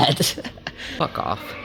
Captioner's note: laughs